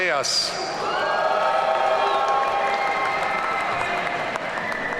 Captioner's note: audience cheering